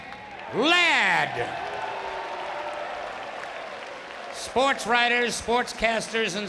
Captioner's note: applause